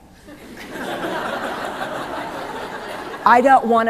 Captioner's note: laughter